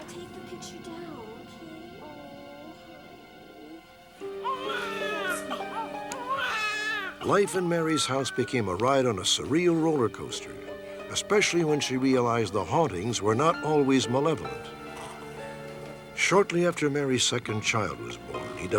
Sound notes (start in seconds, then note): 4.3 baby crying